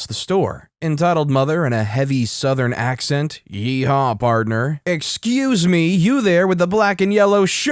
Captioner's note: heavy Southern accent, yeehaw partner